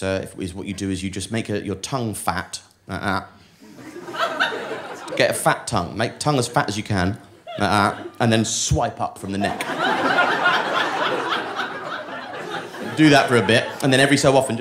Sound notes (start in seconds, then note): 9.3 audience laughing